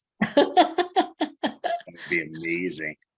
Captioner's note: laughs